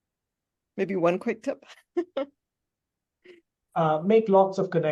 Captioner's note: chuckles